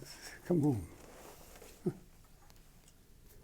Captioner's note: chuckles